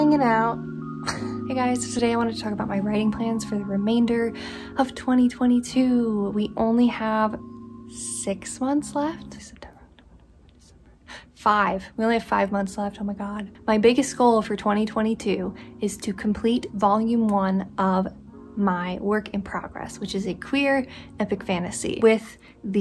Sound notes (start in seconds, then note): 7.7 whispers